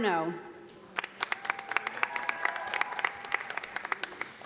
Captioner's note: audience applauding